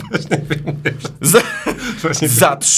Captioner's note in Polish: śmiech